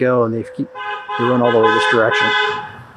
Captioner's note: drowned-out by car honking